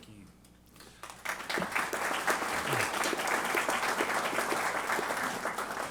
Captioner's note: applause